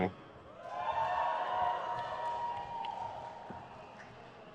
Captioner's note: crowd cheers